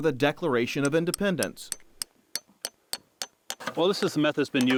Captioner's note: chink of hammer tapping spile